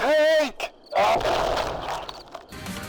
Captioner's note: sounds of Tank-based destruction